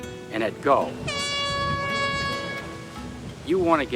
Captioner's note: horn blows